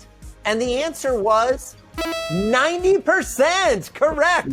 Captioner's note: electronic ding